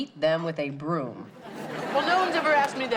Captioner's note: audience laughs